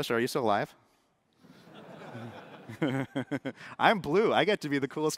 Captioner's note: laughter